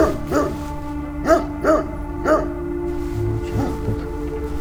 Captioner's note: dog barking